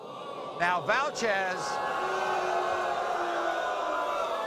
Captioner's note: audience booing